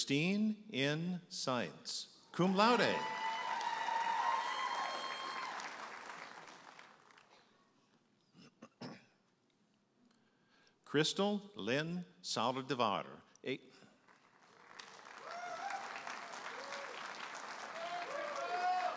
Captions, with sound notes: Christine N. Saenz, Cum Laude. (audience applauding and cheering) Krystal Lynn Saldivar. (audience applauding and cheering)